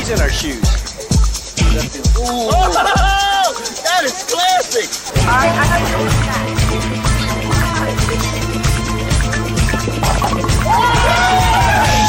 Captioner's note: cheering THAT IS CLASSY